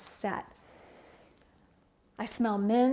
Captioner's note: inhales deeply